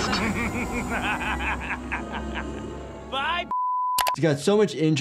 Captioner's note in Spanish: risas